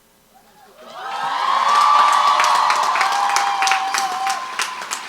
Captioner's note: crowd applauds